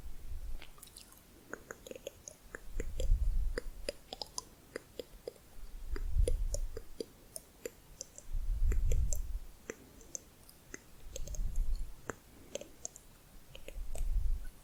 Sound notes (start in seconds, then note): 1.1 varied tongue clicking and bubbling